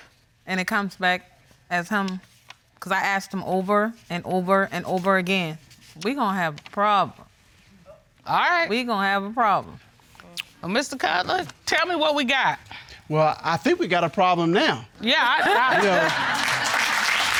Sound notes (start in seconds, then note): 15.6 stammers